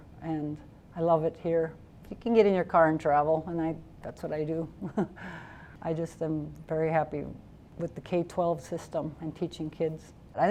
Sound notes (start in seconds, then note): 4.8 chuckling